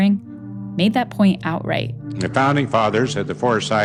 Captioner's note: soundbite of archived recording